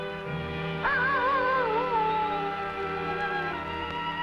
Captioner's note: animal howling